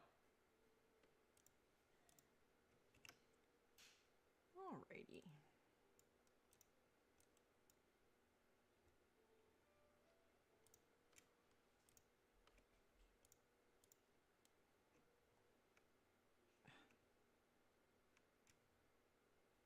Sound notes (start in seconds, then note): 5.7 mouse and keyboard clicking; 18.1 mouse and keyboard clicking